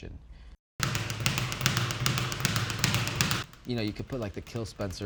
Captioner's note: speed bag thudding